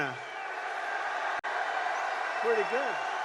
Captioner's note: applause